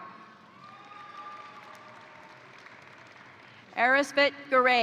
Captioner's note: crowd cheering; crowd applauding